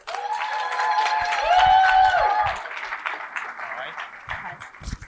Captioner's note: cheering and applause